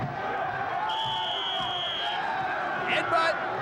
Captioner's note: crowd cheering; whistle blowing